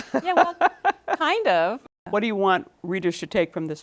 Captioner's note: laughter